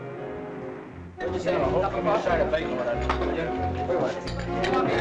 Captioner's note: people chattering